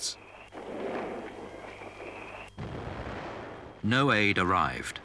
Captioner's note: guns blasting